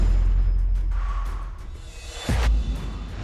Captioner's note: sharp exhale